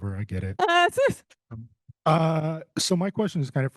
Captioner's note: host laughing